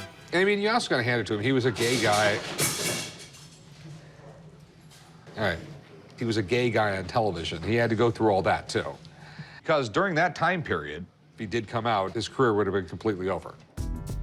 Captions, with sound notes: mean you has got to hand it to him, he was a gay guy-- [clattering] All right. He was a gay guy on television. He had to go through all that too, because during that time period, if he did come out, his career would have been completely over.